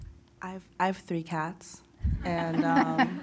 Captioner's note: group laughing